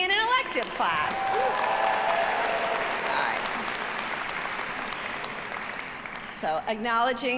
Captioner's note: audience applauding; audience cheering